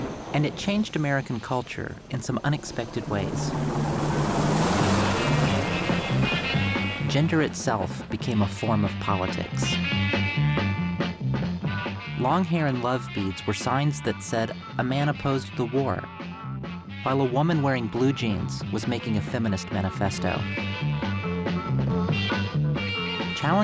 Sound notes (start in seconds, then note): 0.0 explosion; 4.0 whirling Sounds